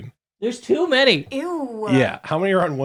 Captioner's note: woman's Voice